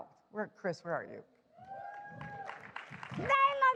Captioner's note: applause